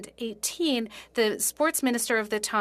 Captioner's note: speaking French